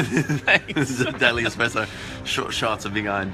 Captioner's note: laughter